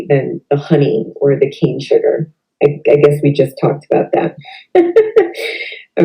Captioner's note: laughs